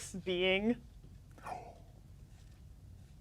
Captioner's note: gasps